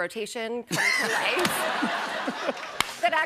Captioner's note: laughter